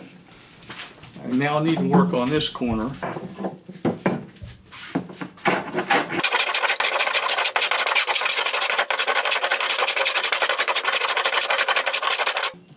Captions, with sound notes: And now I need to work on this corner [tools shuffled on wood board]. [Fast-paced blade trimming wood noise continues].